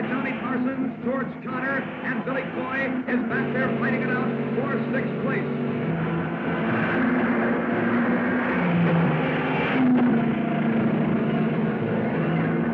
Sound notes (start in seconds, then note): 6.8 cars revving; 6.8 dramatic music